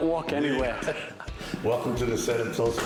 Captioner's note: laughter